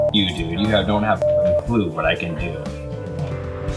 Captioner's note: beep